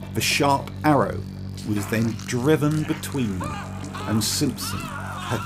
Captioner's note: screams